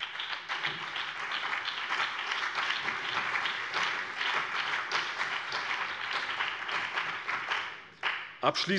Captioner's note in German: Beifall BÜNDNIS 90/DIE GRÜNEN, CDU, DIE LINKE und vereinzelt SPD